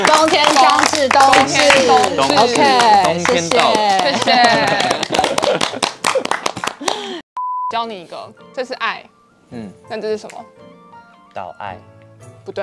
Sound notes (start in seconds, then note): 3.7 laughs happily XD